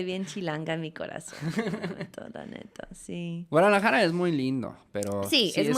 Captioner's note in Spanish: risas